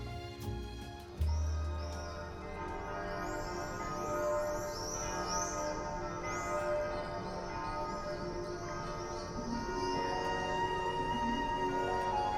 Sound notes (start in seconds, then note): 2.1 bells tolling; 9.5 whimsical music